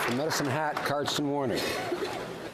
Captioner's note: applause